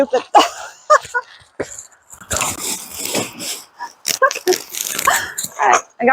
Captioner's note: laughing